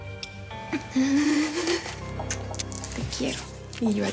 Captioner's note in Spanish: jadeos y sollozos de ella